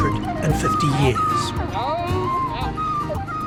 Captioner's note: dog yaps